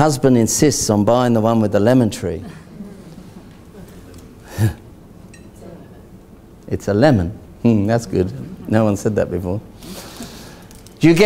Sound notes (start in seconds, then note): 2.4 laughing